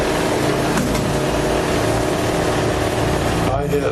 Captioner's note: thudding